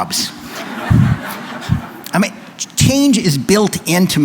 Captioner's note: laughter